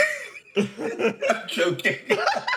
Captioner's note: laughing; laughs; still Laughing